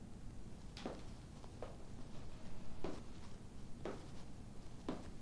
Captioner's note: footsteps thumping